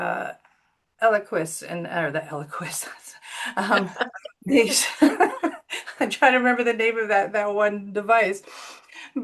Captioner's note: laugh